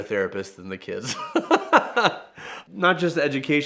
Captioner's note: therapist laughing